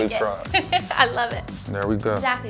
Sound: laughs

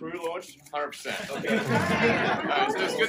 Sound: laughter

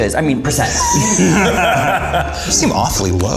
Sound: all laughing

